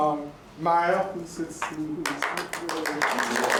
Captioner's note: applause